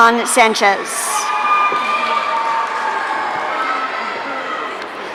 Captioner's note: audience cheering